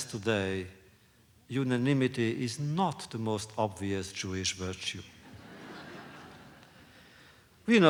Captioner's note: laughter